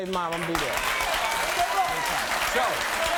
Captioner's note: audience cheers